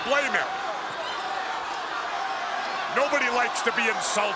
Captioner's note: crowd jeering